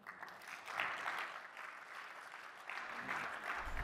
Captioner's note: applause